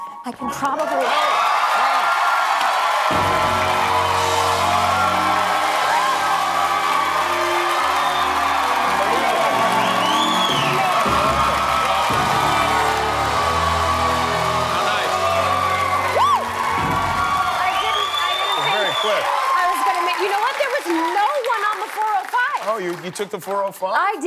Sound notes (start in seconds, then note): 8.0 cheers and applause